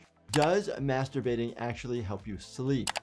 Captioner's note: keyboard keys clicking